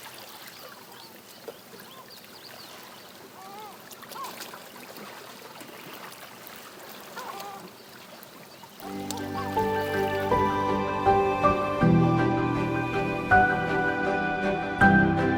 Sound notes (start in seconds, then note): 4.1 seagulls and lapping water; 8.8 soft music plays